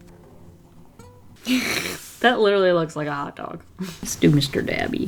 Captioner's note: laughs